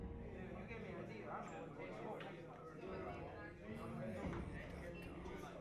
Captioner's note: people speaking in background